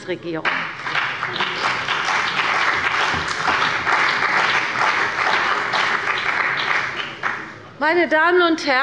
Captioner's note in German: Beifall bei der CDU und dem BÜNDNIS 90/DIE GRÜNEN